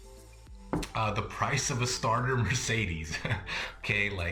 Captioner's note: chuckles